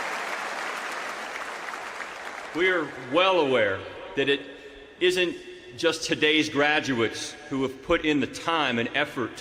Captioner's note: applause